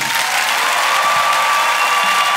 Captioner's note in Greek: χειροκρότημα